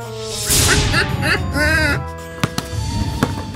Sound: laughing

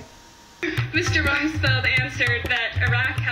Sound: news on TV

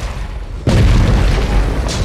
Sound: explosions

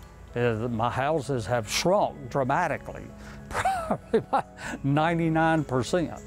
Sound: chuckling

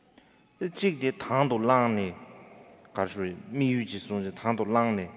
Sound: speaking in foreign language

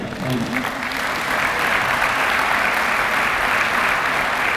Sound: applause

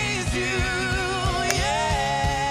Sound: golfball wacked

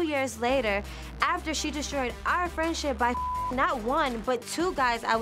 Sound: beep

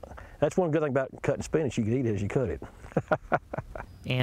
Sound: laughs

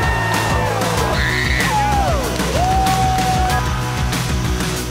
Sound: screaming

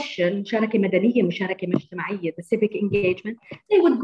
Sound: non-english speech

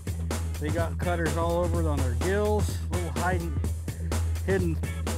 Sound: none

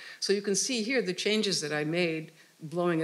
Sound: none

